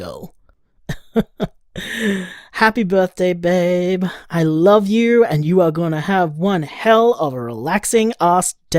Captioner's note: laughs